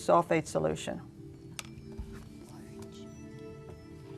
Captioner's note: whispering